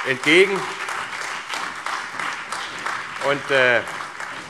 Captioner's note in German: Beifall CDU, BÜNDNIS 90/DIE GRÜNEN, SPD, AfD und Freie Demokraten